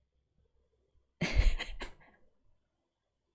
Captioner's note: laughs